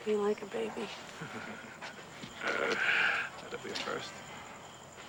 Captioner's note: chuckles